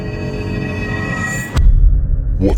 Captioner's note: eerie music; thud